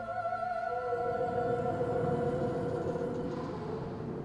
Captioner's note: wind blows